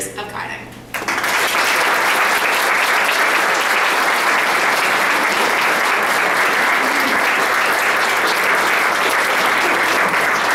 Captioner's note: applause